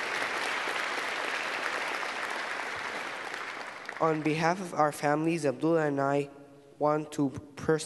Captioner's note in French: Applaudissements